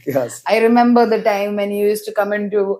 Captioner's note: laughs